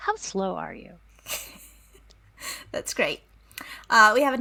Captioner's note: laughs